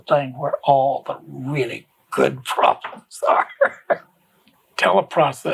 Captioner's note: laughs